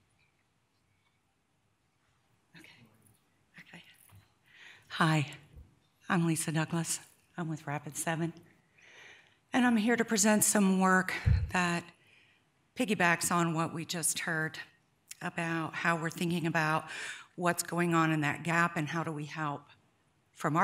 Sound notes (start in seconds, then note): 2.9 man speaks faintly